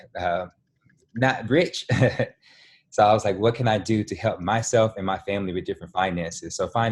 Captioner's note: laughing